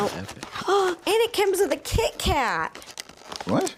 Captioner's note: gasps